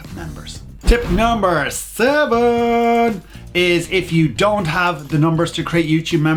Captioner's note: whoosh